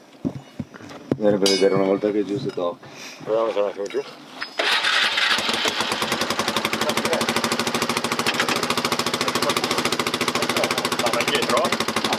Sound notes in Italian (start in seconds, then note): 4.5 rumore di accensione di motore